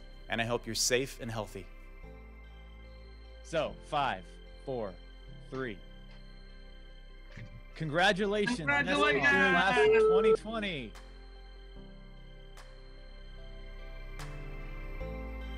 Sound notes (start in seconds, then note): 8.5 cheering; 11.9 soft pop music